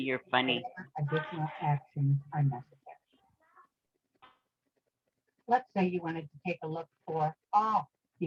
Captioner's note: recorded voice